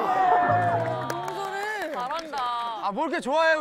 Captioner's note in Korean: 환호